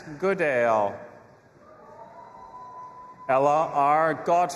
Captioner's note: audience applauding and cheering